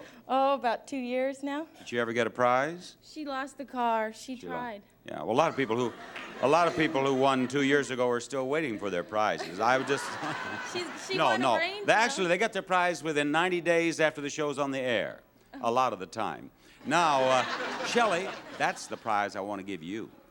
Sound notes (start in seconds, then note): 8.6 both laugh; 16.8 audience laughs